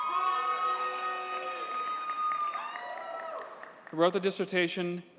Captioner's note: audience cheers and applauds